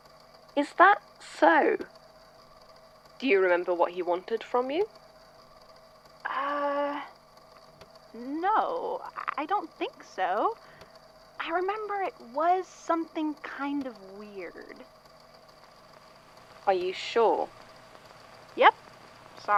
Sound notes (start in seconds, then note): 16.8 audio crackles